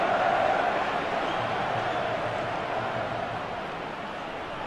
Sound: crowd keeps cheering

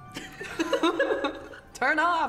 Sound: laughing

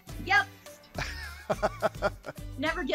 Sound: laughing

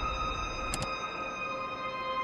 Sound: dimmer switch off

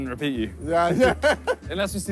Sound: both laughing

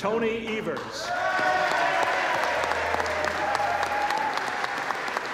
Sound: applause

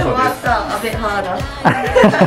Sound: laughs

